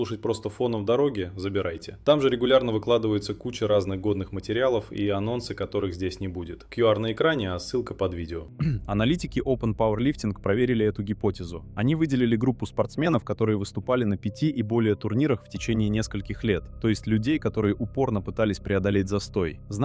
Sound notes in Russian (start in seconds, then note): 8.5 откашливается